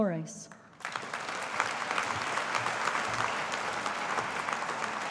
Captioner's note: audience applauding